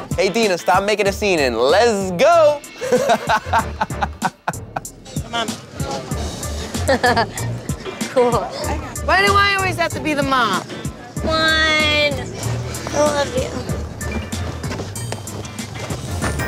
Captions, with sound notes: - Hey, Deena, stop making a scene, and les go (laughs)! - Come on. - (laughs) Cool. - Why do I always have to be the mom? - Come on, I love you.